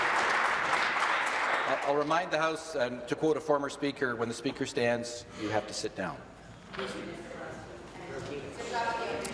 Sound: voice trailing; applause

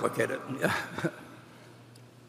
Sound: laughs

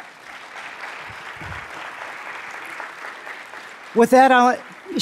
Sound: audience applauds

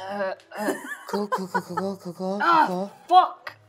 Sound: laughs

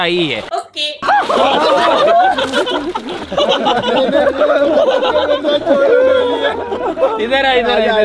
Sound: laughing

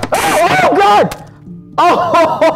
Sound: splat

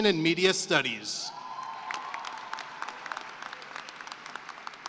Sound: cheering and applause

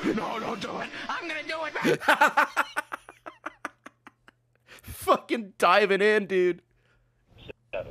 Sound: laughs

